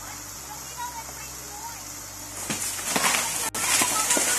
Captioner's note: muffled shouting; water rushes; tree cracks and crashes